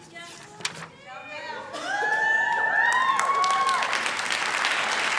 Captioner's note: cheering